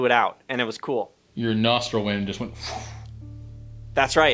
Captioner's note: blows